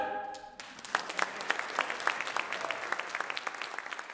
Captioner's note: crowd applause